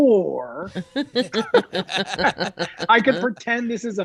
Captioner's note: all laughing